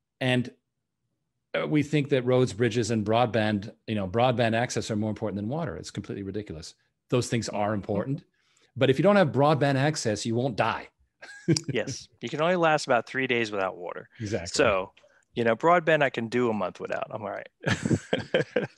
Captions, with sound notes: and we think that roads, bridges and broadband access are more important than water. It's completely ridiculous. Those things are important, but if you don't have broadband access, you won't die(laughs). - Yes, you can only last about three days without water. - Exactly. - So, broadband I can do a month without, I'm all right(laughs).